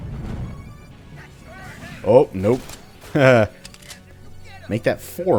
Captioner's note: chuckles